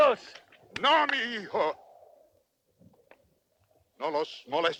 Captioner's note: Victorio speaks Spanish